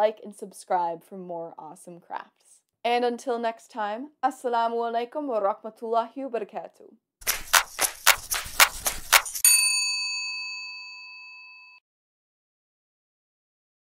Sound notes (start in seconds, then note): 7.2 exciting hand clapping; 9.4 bell ringing